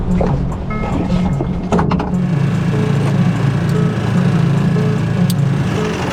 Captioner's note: boat engine rumbling; somber tense music